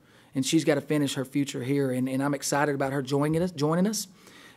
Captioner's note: voiceover